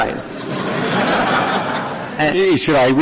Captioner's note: laughter